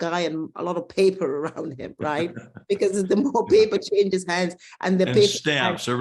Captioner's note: laugh